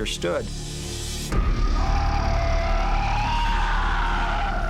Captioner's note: creature screaming